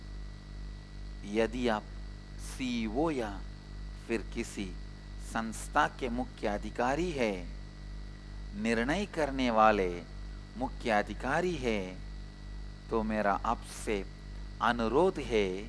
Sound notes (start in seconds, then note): 0.7 hindi